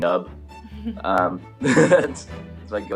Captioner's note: laughs